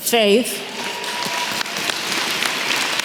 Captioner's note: applause